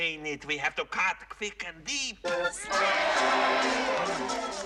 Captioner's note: Аплодисменты аудитории